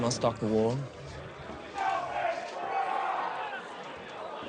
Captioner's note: shouting outside